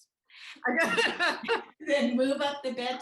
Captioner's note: laughs